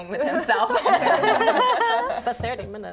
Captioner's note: laughing